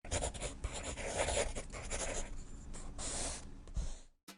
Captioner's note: drawing Sounds